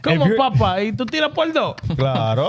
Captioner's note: speaking In Foreign Language